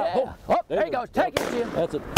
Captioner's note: gun shots firing